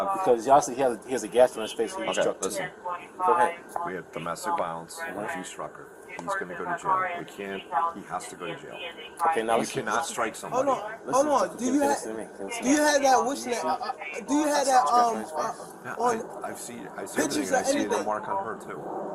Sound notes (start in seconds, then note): 3.3 radio chatter; 6.2 radio chatter